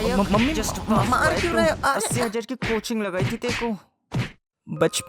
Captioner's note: beating